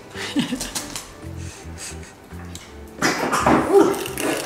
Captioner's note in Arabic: يضحك